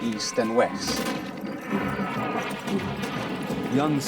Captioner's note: machine gun rattling